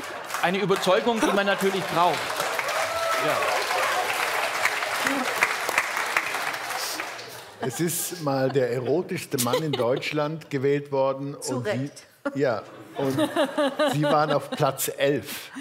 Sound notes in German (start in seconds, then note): 0.0 Lachen; 2.4 Applaus